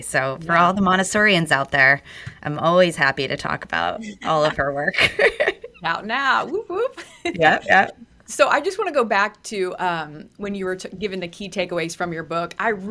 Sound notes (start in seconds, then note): 6.3 laughs